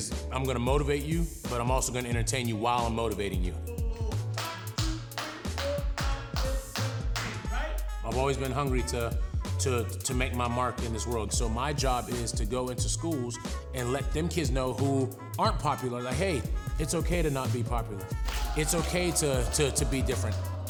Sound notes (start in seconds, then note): 4.3 clapping